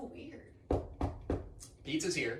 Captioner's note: knock on the door